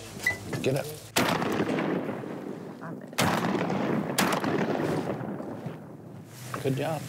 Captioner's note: gunshots